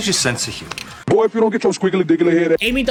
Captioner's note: distorted voice